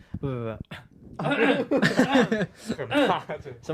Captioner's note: coughs